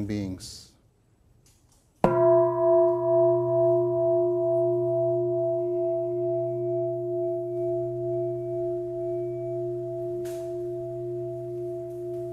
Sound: bell

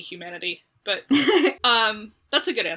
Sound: laughs

